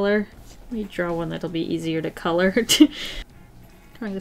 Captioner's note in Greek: Γέλια